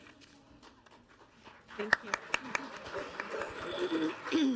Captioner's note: audience applauding